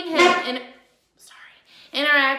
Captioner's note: chair squeaks